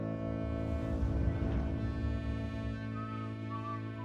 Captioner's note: Tom whistling